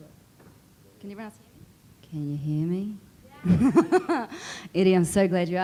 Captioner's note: laughs